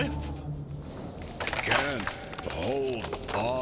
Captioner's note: branch breaking